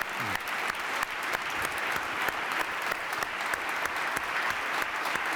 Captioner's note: applause